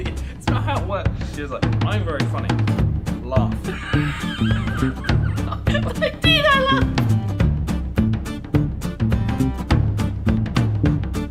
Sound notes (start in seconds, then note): 3.6 laughs